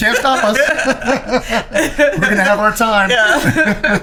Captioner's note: laughing